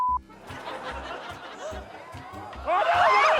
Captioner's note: laughter